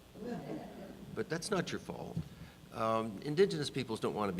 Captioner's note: audience laughing